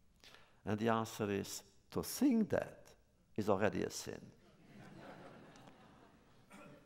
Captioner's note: laughter